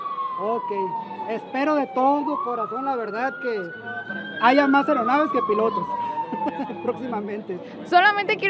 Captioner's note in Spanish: risas